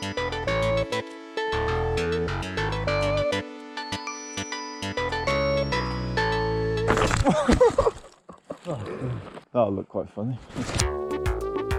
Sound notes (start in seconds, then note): 7.2 laughing